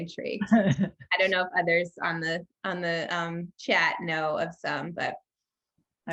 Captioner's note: laugh